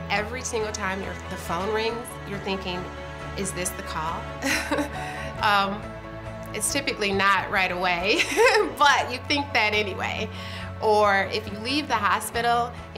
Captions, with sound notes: every single time the phone rings, you're thinking, is this the call? (chuckling) It's typically not right away, (laughing) but you think that anyway. Or if you leave the hospital